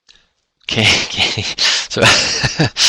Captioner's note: laughs